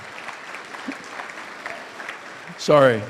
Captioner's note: audience applauds